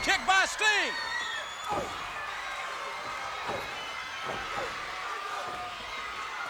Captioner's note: wrestlers grunting; punches thudding